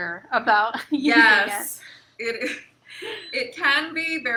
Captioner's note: chuckles